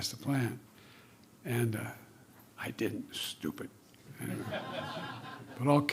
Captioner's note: laughter